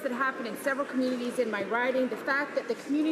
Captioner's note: none